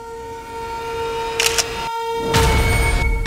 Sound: picture clicking sound

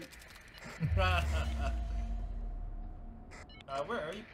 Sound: laughing

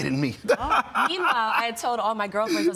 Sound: laughs

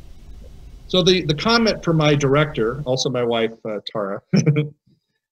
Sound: laughs

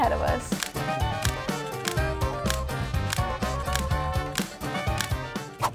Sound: camera shutter clicking

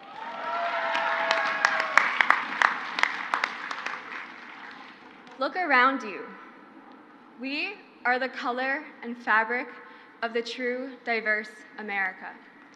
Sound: crowd applauds

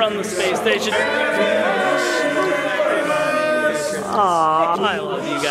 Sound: cheering

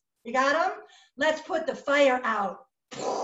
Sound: imitates water spraying

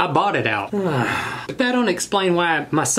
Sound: sigh

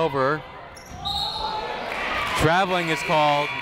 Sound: whistle tweeting

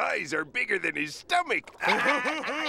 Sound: laughing

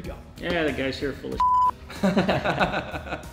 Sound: beeps; laughs

